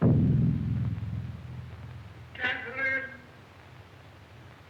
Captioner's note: canon booms outside